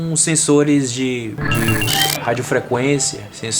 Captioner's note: electronic bell